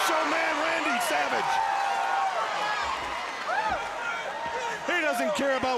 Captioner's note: crowd cheering